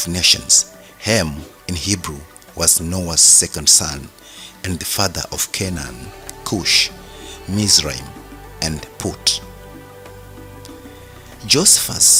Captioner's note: in Hebrew